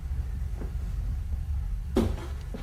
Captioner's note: bang from ceiling